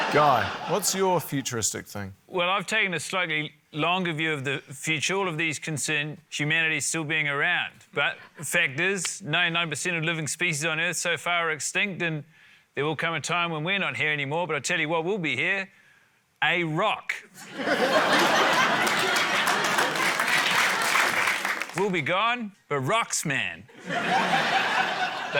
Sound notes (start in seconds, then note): 17.4 laughter, applause; 23.7 laughter